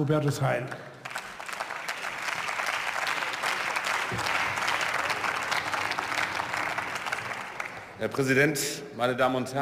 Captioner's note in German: Beifall